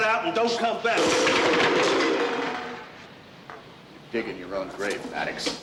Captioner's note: cans clanking